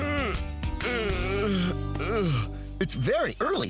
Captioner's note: yawning